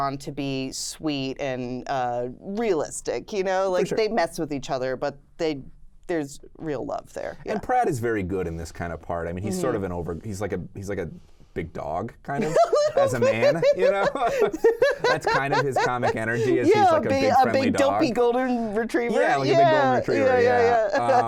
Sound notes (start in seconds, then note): 12.4 pair laughs